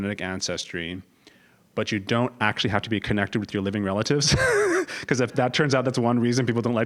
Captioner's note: laugh